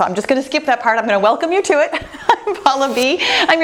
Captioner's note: chuckles